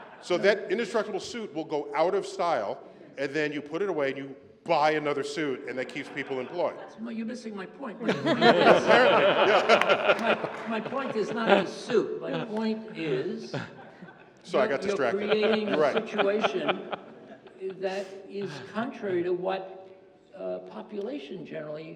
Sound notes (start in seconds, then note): 0.0 laughter; 8.6 laughter